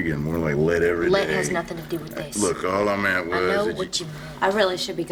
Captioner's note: none